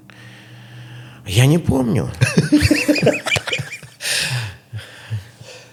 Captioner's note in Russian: смех